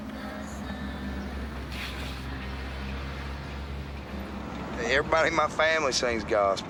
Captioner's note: traffic Sounds